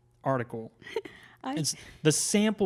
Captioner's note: laughs